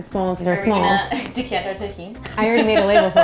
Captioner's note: laughing